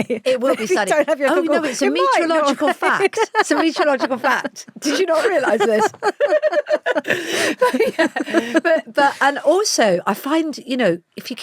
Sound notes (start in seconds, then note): 2.6 laughs; 6.2 both laughing